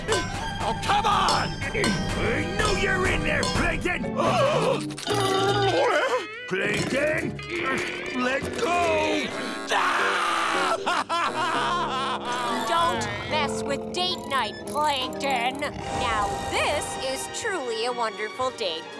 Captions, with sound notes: Oh, come on! I know you're in there, Plankton! [gasping] Plankton! Let go! [crying] Don't mess with date night, Plankton. Now, this is truly a wonderful date, Plankton.